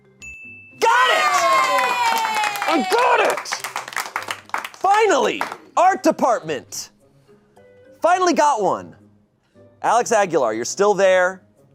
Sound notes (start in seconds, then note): 0.3 bell dings; 0.8 audience cheering